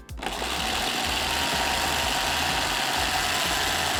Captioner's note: blender whirring